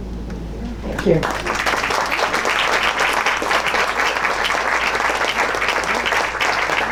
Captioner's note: audience applauds